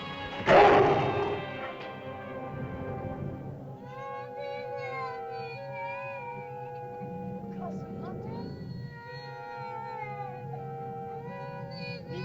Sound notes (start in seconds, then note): 0.0 dramatic music; 0.4 lizard snarls; 3.6 ominous music; 3.8 Wandi cries; 7.5 Loana speaks in caveman language; 9.5 Wandi cries; 9.5 ominous music